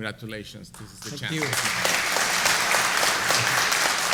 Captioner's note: applause